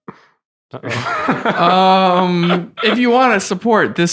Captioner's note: innocent laughing